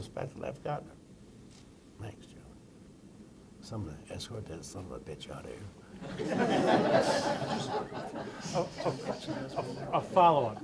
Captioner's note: laughter